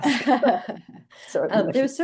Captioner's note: laughing